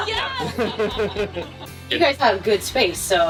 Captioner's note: laughing